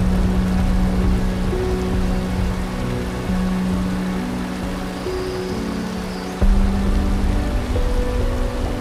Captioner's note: sounds of waterfall splashing and birds chirping